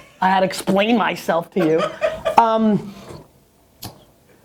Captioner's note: laughter